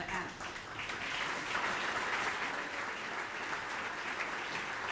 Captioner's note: audience applauding